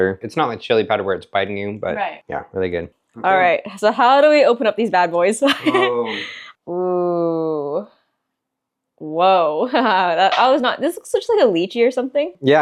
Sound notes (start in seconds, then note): 5.5 laughing